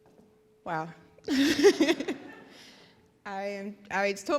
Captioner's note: laughs